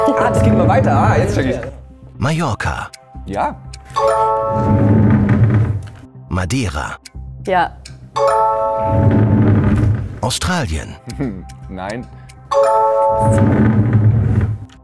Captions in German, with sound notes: Ah, es geht immer weiter, jetzt check ich. Ja. (Klingeln) Ja. (Klingeln) Hm-hm, nein. (Klingeln)